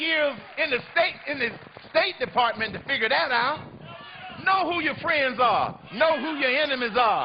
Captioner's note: applause